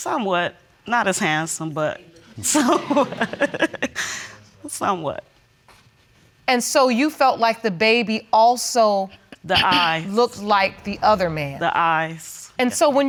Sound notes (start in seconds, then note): 2.5 chuckles